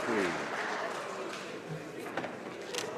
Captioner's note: speaking French